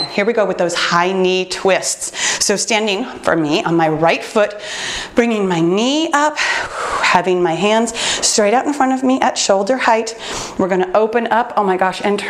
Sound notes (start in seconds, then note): 7.9 exhales